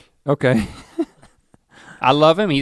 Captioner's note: chuckles